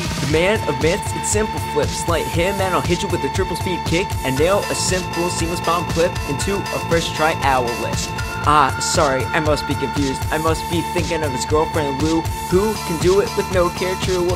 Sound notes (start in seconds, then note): none